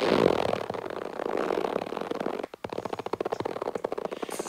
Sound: rubber stretching

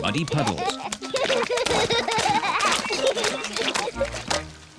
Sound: both giggling

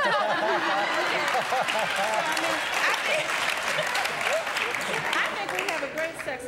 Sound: applause

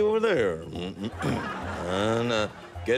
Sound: clears throat

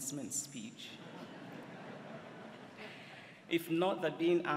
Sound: laughter

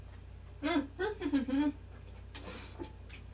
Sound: happy tasty noises

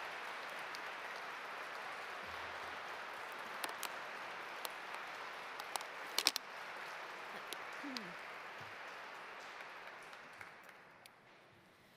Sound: cheers and applause

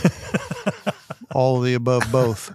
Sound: laughs

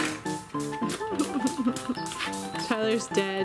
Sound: laughs

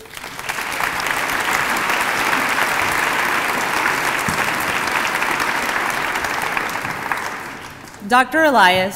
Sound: applause

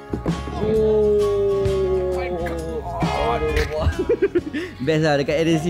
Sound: laugh

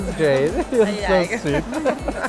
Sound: laughter

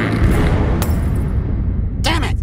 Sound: explosion; bulb breaking

